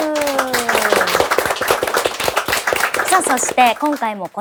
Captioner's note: applause